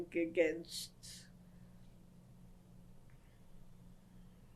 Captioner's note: pauses for 30 seconds